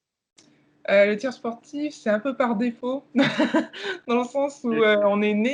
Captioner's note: laughs